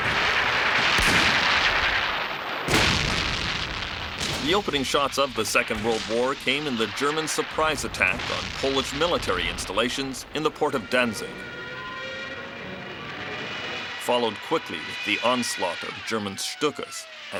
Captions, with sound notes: (cannons firing) The opening shots of the Second World War came in the German surprise attack on Polish military installations in the Port of Danzig. (airplanes roaring) Followed quickly with the onslaught of German Stukas